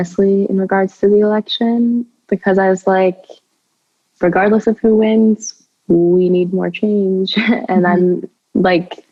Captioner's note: chuckles